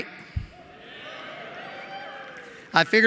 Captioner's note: cheering